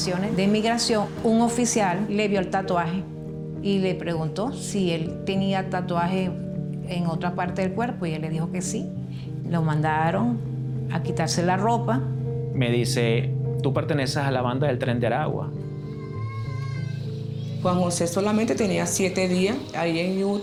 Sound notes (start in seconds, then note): 15.7 child shouting